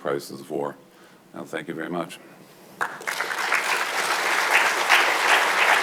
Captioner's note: audience clapping